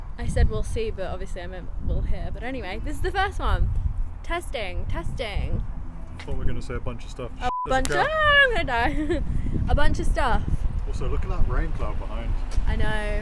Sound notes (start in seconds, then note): 7.4 beep